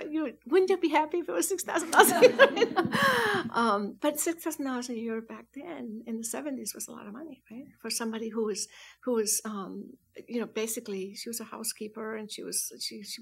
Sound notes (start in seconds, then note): 1.9 students laugh; 1.9 laughs